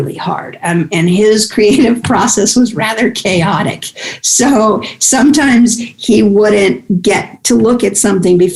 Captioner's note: guffaw